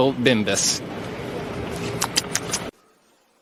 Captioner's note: lip smacking